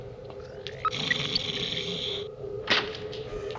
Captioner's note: growling